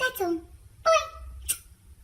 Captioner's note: smooch